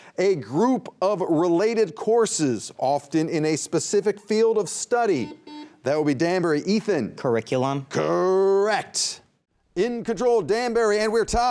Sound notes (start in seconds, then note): 5.2 buzzer beeping